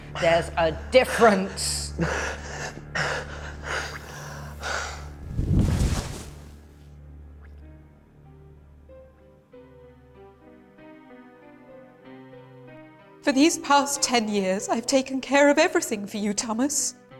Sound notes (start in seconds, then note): 1.9 Andrew's blood squirts; 5.1 thuds to floor; 9.1 sad piano music